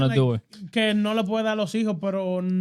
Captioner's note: speaking In Foreign Language